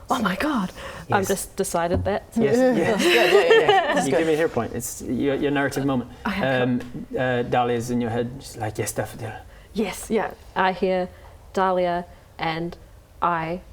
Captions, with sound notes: oh my God! I've just decided that Yes yes yes *laughing* You gave me a hero point It's your narrative moment okay cool Dahlia's in your head, just like, yes daffodil Yes, yup I hear Dahlia and I